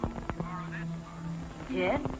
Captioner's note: on phone